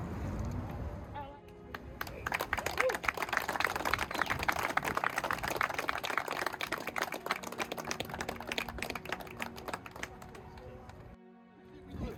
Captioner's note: clapping